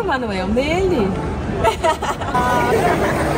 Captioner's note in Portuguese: risos